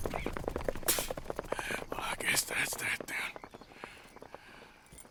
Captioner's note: coughs and spit